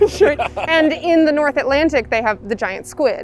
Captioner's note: laughing together